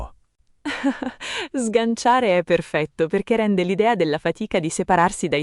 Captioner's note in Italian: Haha